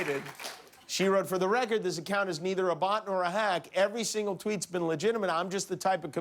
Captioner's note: applause